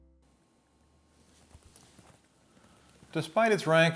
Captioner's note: photo album rustling